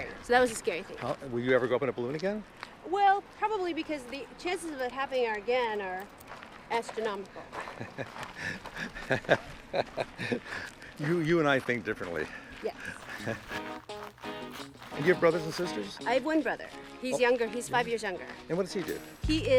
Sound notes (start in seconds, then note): 8.3 laughs; 13.2 soft upbeat music